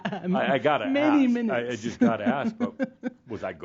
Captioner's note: she chuckles